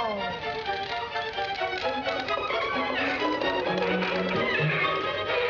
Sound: creaking

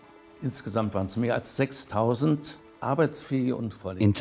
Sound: speaks in foreign language

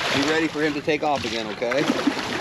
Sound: fish splashing

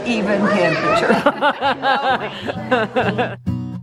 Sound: laughing; guitar music

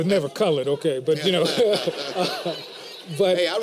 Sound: laughter

